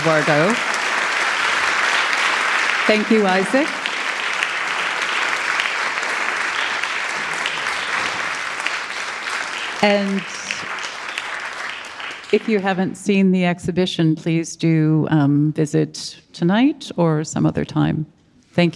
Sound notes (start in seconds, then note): 0.2 audience clapping; 4.7 audience clapping